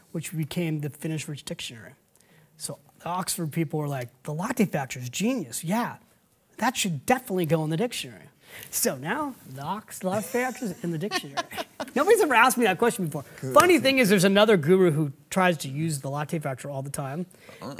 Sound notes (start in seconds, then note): 10.2 laughs